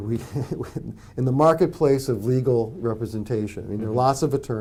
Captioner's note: laughs